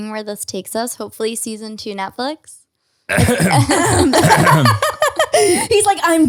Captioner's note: coughs loudly